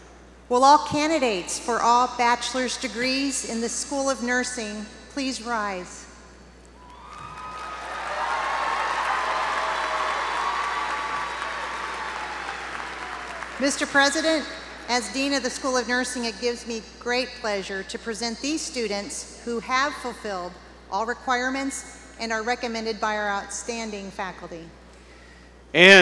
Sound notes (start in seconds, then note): 6.8 applause